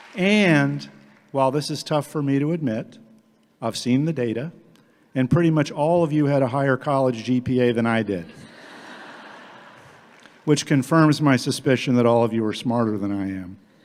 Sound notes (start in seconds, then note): 8.4 audience laughing